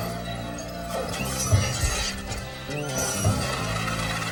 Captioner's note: glass shattering